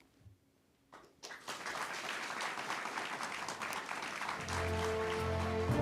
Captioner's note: applause